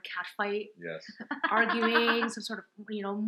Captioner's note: laughs